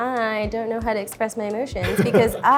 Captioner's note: laughs